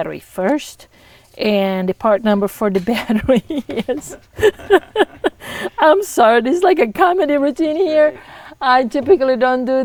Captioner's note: laughter